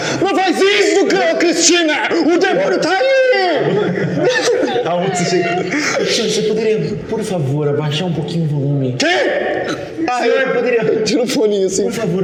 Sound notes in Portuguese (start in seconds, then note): 3.6 Risadas